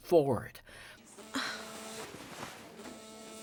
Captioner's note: phone buzzing